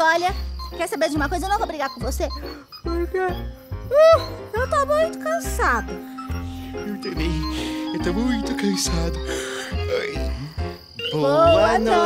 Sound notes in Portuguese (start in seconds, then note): 9.2 ludovico boceja